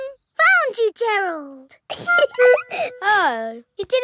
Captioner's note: giggling